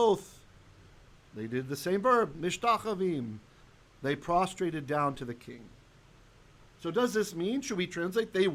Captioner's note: Hebrew